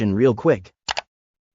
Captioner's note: click